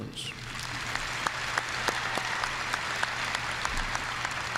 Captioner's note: audience applauding